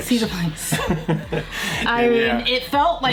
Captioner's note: both chuckle